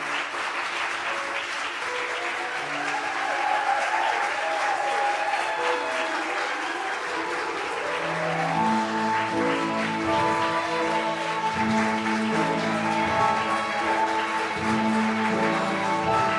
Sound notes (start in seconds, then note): 0.2 applause